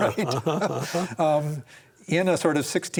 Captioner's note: both laugh